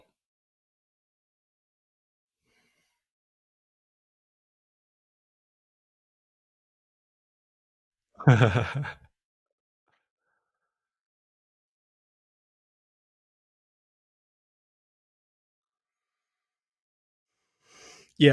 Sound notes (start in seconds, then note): 0.1 silence; 8.2 laughter; 10.1 silence